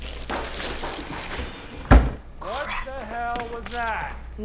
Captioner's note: clanking